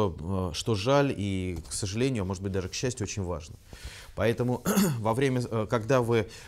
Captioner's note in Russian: откашливается